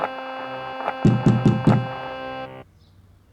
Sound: knock on door

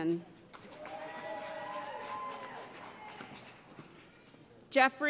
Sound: cheering

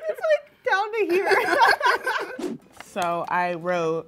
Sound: both laugh

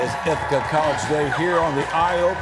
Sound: cheers and applause

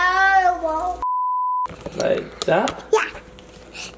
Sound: beep

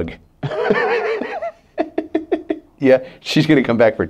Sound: all laughing

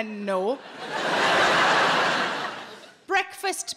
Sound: laughs; audience laughing

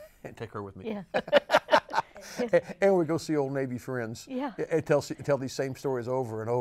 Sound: laughs

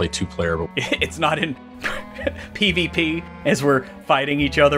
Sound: laughs

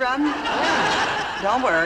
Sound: audience laughing

